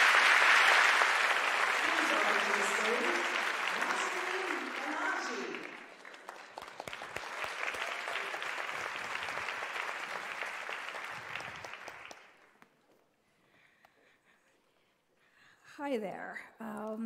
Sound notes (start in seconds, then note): 12.5 applause